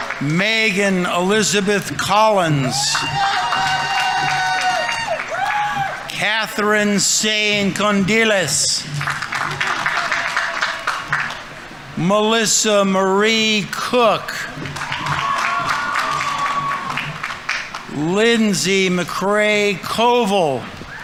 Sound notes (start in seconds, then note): 2.9 audience applauding; 2.9 audience members cheering; 9.1 audience applauding; 13.3 audience members cheering; 13.7 audience applauding; 20.8 audience applauding; 20.8 audience members cheering